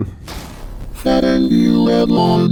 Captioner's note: crashing sound